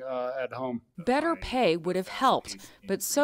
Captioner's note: voice-over